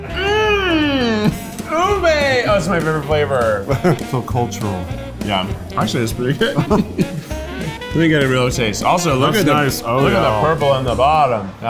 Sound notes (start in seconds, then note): 5.7 chuckles